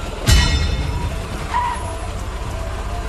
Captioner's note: tires screeching